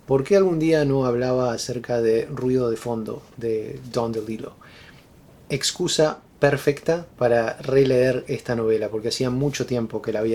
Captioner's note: white Noise